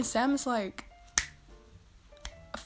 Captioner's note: snap